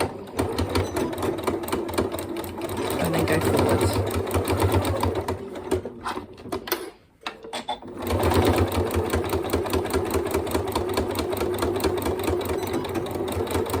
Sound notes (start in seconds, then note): 7.4 sewing machine noise